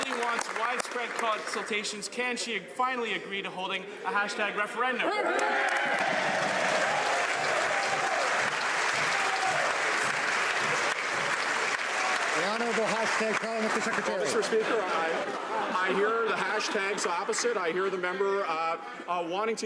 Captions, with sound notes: OF TOUCH, HASHTAG DISRESPECT. (APPLAUSE) IF THE MINISTER TRULY WANTS WIDESPREAD CONSULTATIONS CAN SHE FINALLY AGREE TO HOLDING A HASHTAG REFERENDUM?